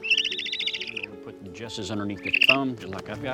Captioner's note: Bogart chirping